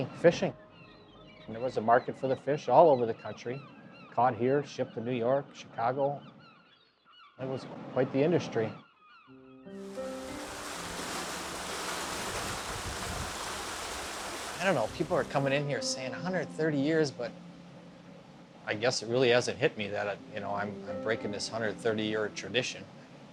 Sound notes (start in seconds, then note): 13.2 water splashing